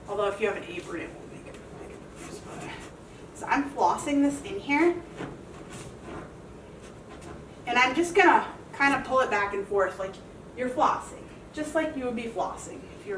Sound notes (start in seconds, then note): 5.0 sock rubbing